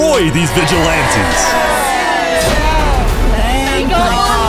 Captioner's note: cheering